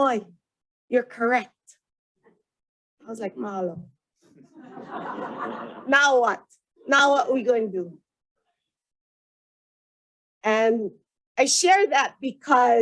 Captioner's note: laughter